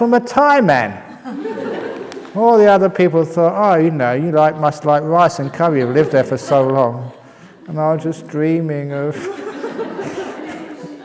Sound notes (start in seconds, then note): 7.0 laughter; 9.0 laughs